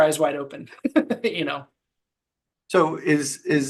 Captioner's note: laughing